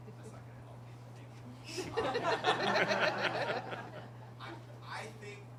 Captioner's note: laughter